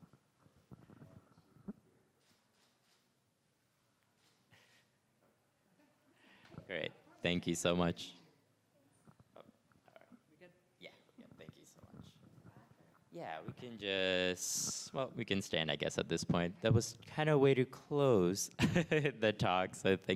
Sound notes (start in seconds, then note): 2.9 camera shutter clicks